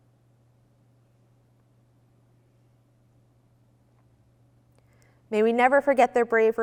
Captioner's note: moment of Silence